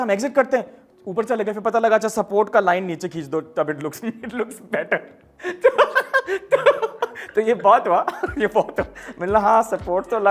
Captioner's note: laughing